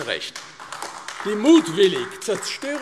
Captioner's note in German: Beifall AfD